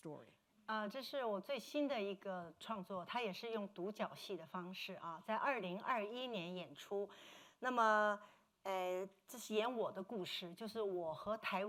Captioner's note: speaking Mandarin